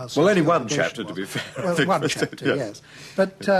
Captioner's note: laughs